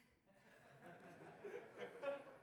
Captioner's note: audience laughing